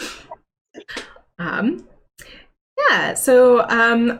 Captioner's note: laughs